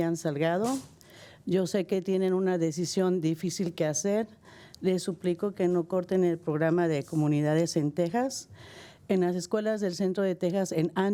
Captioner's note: speaking spanish